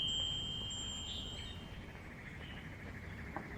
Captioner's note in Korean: 종소리